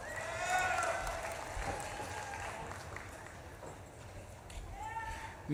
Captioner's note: audience claps and cheers